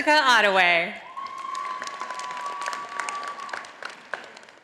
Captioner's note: audience applauding